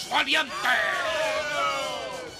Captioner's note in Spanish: ovación